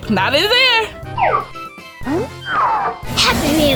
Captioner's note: cartoony blooping